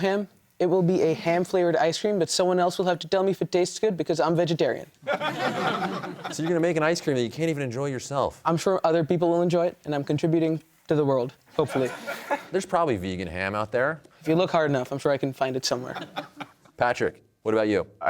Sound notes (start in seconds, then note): 5.0 laughter